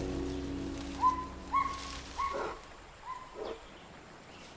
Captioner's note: gibbon whooping